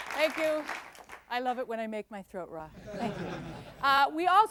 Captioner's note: clapping fades; laughter